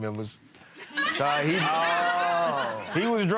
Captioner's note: audience laughing